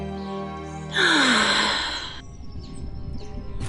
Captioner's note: sighs